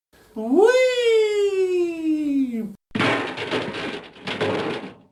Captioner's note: trash cans banging